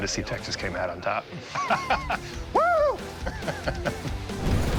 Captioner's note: laughing